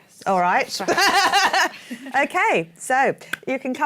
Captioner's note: laughs